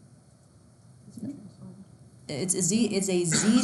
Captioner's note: students murmur